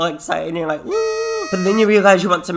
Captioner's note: noisemaker blares